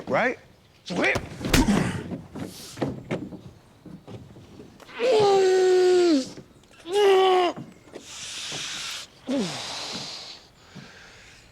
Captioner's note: groaning